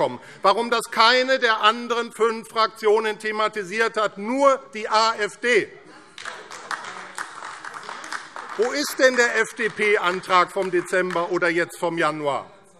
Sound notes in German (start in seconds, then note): 6.1 Beifall AfD und vereinzelt Freie Demokraten